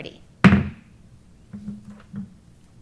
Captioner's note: gavel bangs